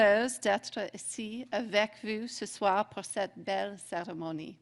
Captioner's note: speaking French